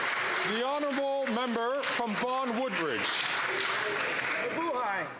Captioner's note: applause